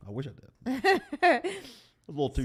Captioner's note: woman laughs